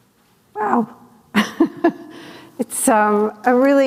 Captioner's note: chuckles